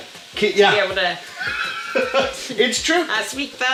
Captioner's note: laughter